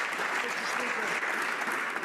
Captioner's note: some Applause